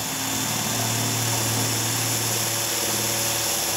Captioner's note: drilling noise